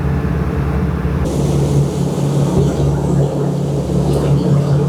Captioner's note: engine noise